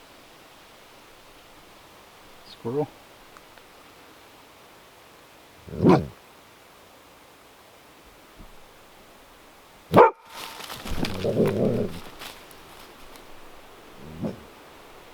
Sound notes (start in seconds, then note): 5.6 Cali growls; 9.9 Cali barks; 10.8 Cali growling and barking